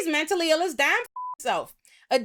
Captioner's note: beep